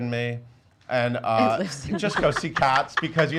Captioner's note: laughs